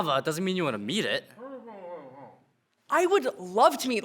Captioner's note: producer mumbles